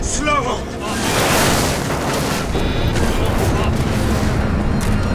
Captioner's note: plane crashes